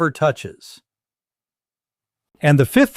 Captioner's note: pause